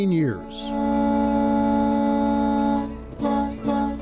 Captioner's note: horns honking